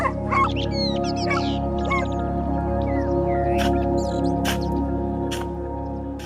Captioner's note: bird chirping; dog barking